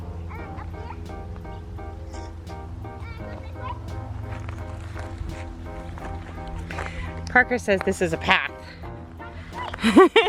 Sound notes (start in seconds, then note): 2.0 gravel crunching